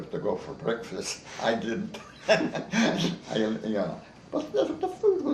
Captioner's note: chuckles